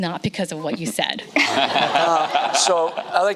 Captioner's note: audience laughing